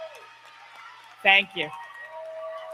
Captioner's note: applause